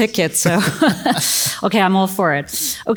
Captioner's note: both laugh